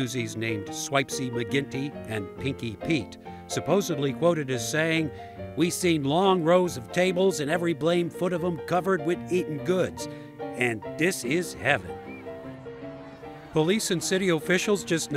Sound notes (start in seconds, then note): 11.0 playful piano music; 12.0 crowd chattering